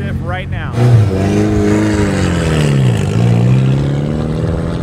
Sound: engine revving

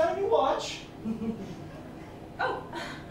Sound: laughter

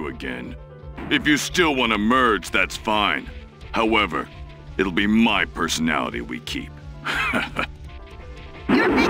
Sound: chuckle

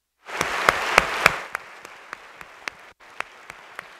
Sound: audience applauds

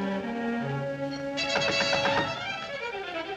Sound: knocking

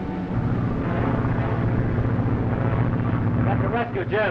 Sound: engines droning

